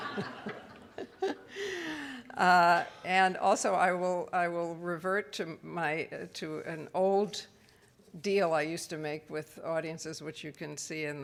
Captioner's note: audience laughs